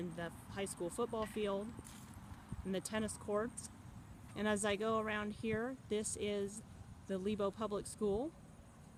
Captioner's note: sounds of cars driving